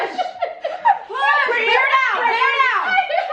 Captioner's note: laughing